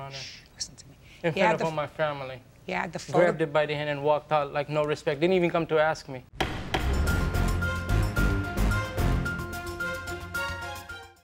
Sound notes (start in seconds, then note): 6.4 gavel bangs; 6.4 urgent music